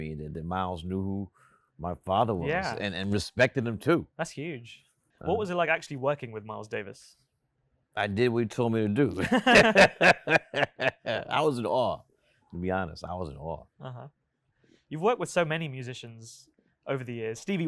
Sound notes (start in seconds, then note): 9.2 host laughs; 9.2 laughs